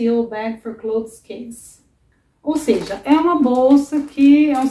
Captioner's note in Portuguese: som da boca